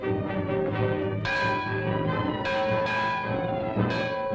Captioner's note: bell tolling